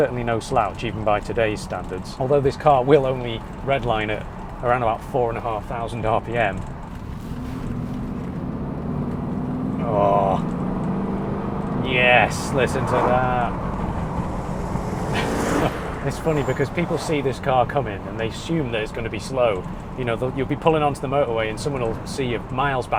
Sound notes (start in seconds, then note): 7.8 lovely unstressed V8 noises